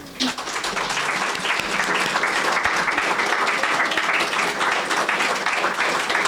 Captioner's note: audience clapping